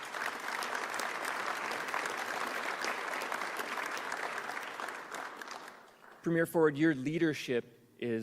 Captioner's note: applause